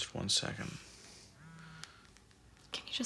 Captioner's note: phone beeps